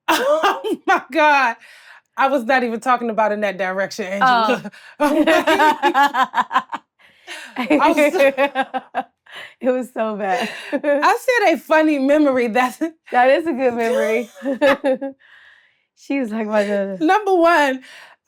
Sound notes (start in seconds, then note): 0.1 laughs; 5.0 laughs; 7.3 Blac Chyna laughs; 11.2 laughs; 13.7 laughs